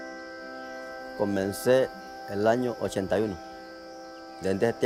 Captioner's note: speaking Spanish